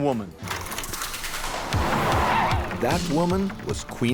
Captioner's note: tape rolling; upbeat music